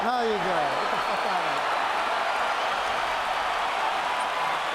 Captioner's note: crowd cheering